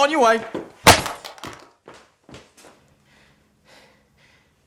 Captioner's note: cell phone shatters